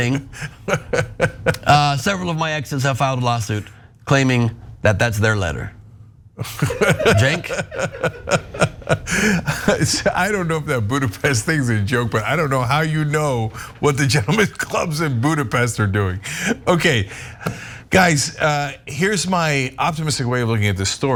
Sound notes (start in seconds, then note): 0.0 laugh; 6.4 laugh